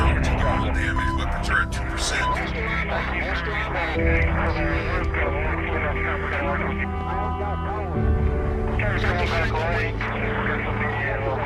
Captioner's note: static